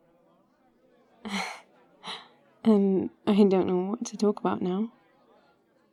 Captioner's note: laughs